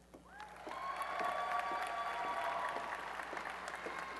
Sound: applause and cheering

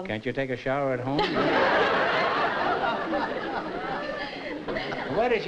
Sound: laughter

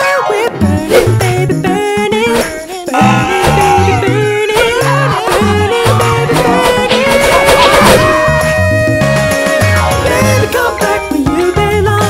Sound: puppets shouting

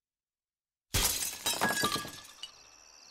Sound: glass breaking

